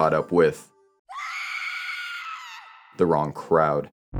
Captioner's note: distant screaming